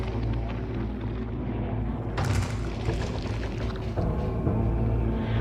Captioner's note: eerie growling